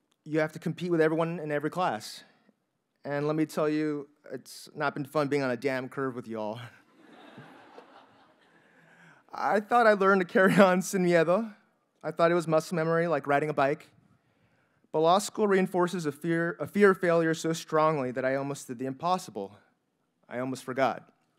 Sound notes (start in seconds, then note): 7.0 audience members chuckle; 10.9 speaking in a foreign language